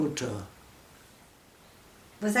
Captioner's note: silence